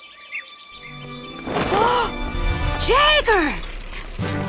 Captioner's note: gasps